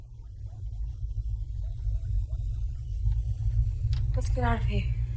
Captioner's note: distant jet rumbles